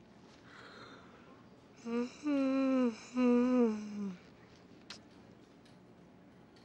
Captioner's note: yawn